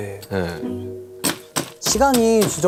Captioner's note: pound, pound, pound